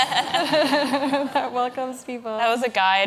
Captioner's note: audience laughs